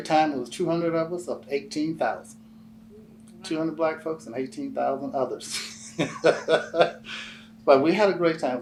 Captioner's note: laughs